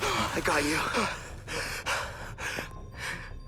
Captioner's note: Max gasps